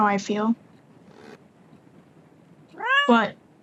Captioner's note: squeak